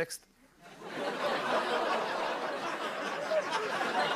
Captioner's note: laughter